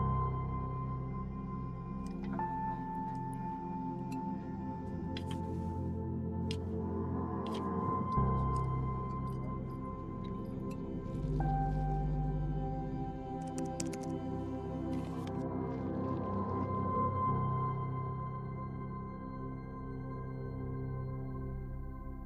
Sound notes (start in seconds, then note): 0.1 click; 10.7 liquid pouring; 13.1 low electronic hum; 15.1 keyboard clicking; 18.3 low electronic hum